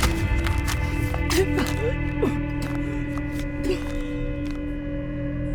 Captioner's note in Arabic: إيما تتقيأ; موسيقى متوترة